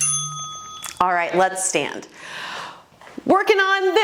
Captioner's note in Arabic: قرع الجرس